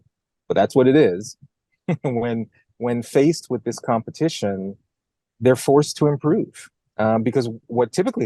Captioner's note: laugh